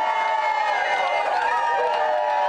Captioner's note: applause